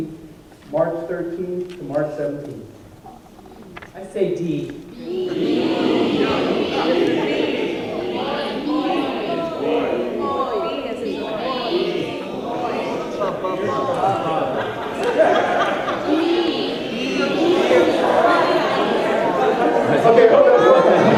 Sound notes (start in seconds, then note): 5.2 laughter